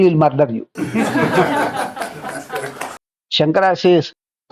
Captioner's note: laughs